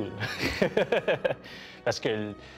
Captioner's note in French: rire